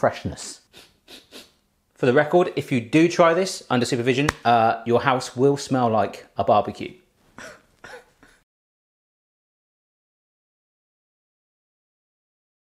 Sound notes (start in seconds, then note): 0.6 sniffing; 7.4 coughs